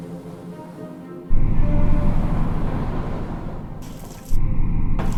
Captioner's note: waves rushing